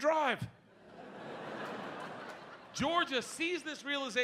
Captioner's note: audience laughing